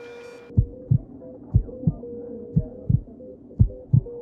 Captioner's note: intense heart beat